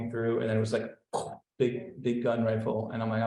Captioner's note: pops